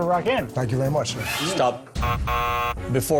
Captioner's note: buzzer sounds